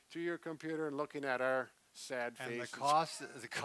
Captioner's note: laughs